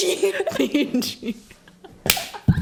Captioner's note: laughs